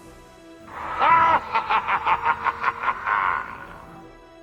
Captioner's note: evil laughter